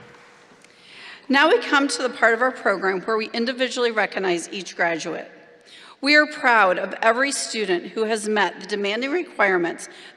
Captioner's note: applause